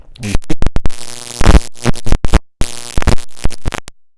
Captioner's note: electrical zapping